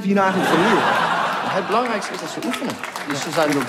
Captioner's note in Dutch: luid gelach